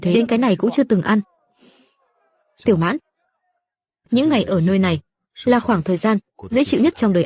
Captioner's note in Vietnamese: khịt mũi